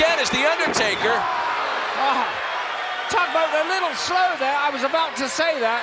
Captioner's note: applause